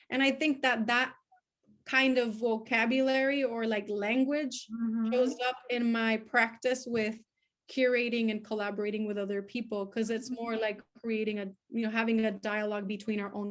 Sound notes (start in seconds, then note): none